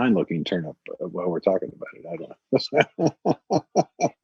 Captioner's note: laughs